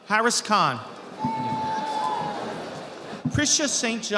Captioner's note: audience applauding